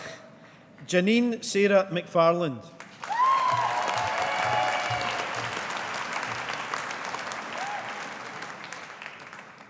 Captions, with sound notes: Janine Sarah McFarland. (AUDIENCE APPLAUDING)